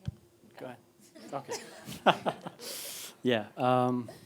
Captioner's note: laughing